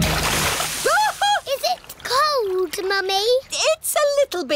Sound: shrieks

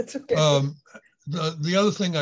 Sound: laughs

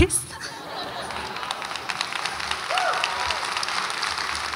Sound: audience applauds

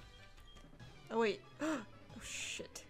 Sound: gasps

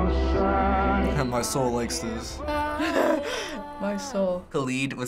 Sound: laughing

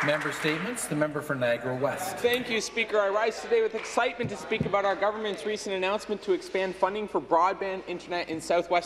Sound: some Applause

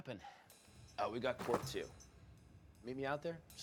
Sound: bag thumping; slow jazz music

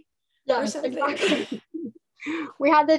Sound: laughing

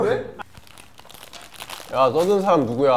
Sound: Crunch

